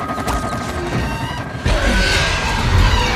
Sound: growling

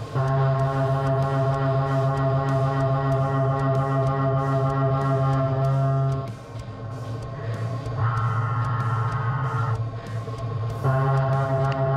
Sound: machining noises

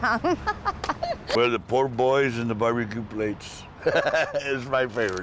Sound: laughs

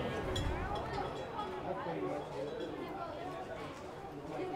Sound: boys chatting

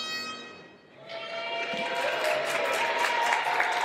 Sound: cheering

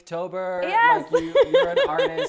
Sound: laughs

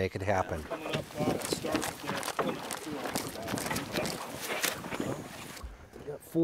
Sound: flapping

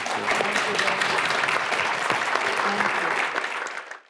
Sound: audience clapping

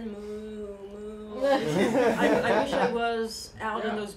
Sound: laughter

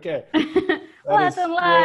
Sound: laughs

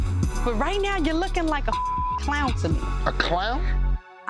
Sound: beep

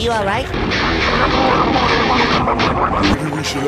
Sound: angry motorboat noises

